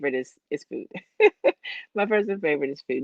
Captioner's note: laughs